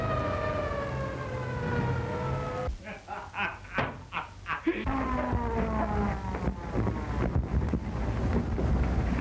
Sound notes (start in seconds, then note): 1.7 sirens blaring; 5.0 laughter